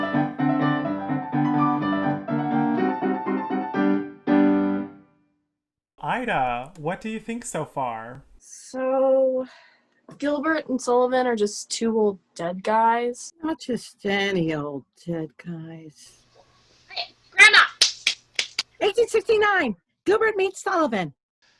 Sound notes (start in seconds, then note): 15.6 trailing off; 18.4 clapping